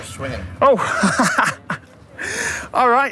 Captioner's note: laughs